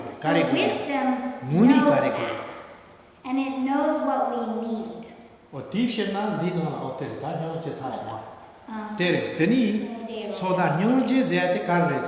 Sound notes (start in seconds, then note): 7.2 speaking tibetan